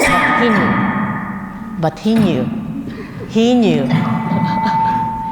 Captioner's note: cough; laugh